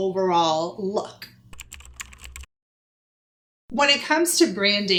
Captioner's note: typing